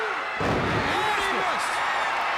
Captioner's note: fans shouting; body thudding